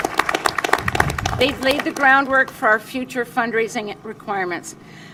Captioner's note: applause